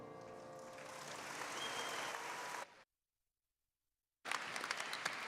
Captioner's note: audience applauding